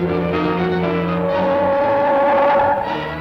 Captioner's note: gun humming